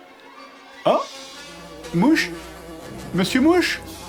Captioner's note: fly sound